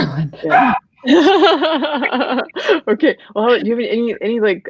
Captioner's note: laughing